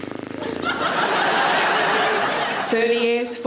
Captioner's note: audience laughs